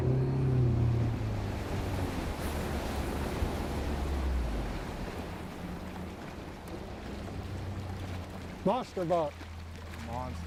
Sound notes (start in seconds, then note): 0.3 boat motor whirring; 1.9 water rushing; 4.9 deer splashing